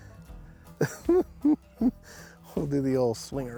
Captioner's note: chuckling